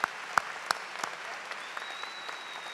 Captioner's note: cheers and applause